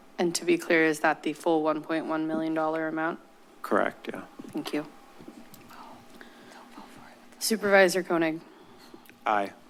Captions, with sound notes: - And to be clear, is that the full $1.1 million amount? - Correct. Yeah. - Thank you. - [whispers]. - Supervisor Koenig. - Aye.